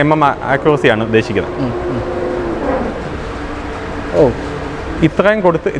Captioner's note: machine running